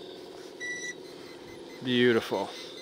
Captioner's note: machine beeping